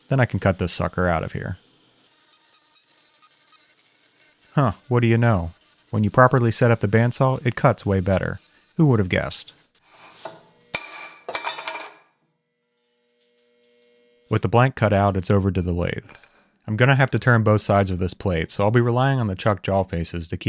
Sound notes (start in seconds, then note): 2.6 saw whines; 10.7 metal clangs